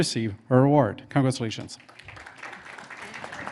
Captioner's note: in English